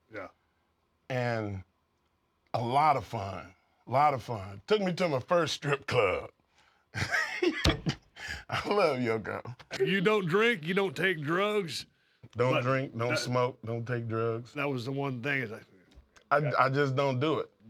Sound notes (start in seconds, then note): 7.8 laugh